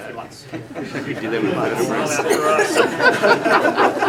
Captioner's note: laughter